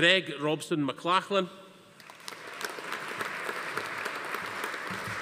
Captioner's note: audience applauding